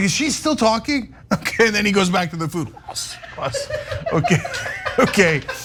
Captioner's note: laugh; laugh